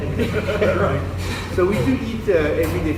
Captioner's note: laughter